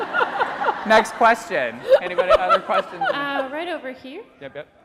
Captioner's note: laughing